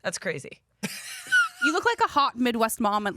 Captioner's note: laughs